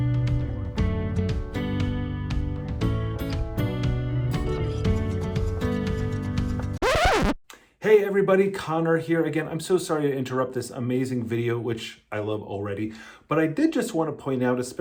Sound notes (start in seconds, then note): 6.8 record scratch